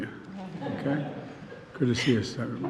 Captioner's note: laughter